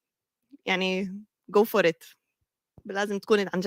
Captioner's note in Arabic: لغة أجنبية